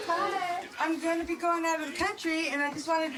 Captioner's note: tv playing